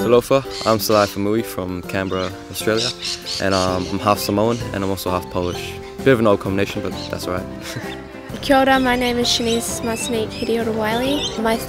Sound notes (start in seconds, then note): 7.4 chuckles